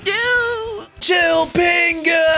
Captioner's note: sobbing